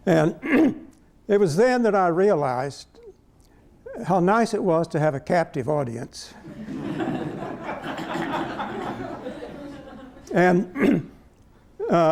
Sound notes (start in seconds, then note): 6.4 laughter